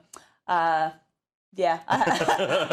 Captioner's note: laugh